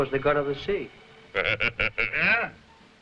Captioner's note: Gregory laughing